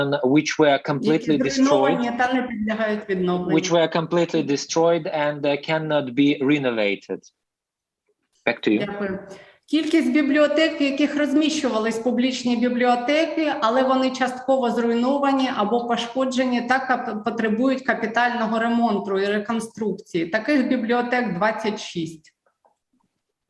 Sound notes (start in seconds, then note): 8.6 foreign Language